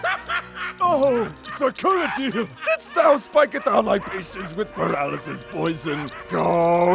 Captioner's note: Kuradeel laughing like a maniac